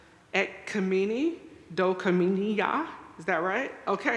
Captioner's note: speaking in foreign language